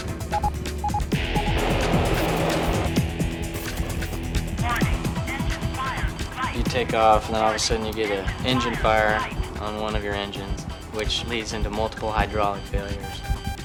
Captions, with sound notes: - [Automated Voice] Warning, engine fire threat. - You take off, and then all of a sudden you get an engine fire on one of your engines, which leads into multiple hydraulic failures.